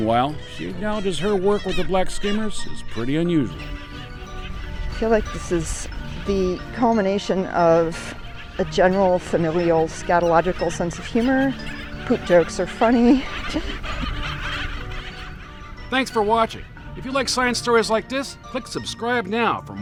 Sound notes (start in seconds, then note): 13.3 laughs; 13.8 birds squawking